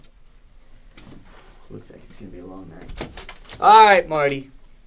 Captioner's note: exhales